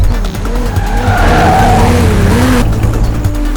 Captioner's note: tires squealing